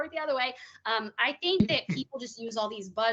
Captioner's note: chuckling